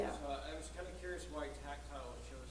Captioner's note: voiceover